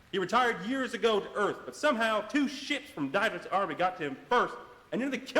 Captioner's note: none